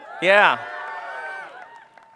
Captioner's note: cheering